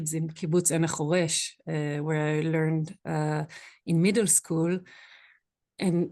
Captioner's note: Hebrew